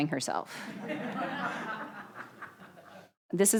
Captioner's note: audience laughing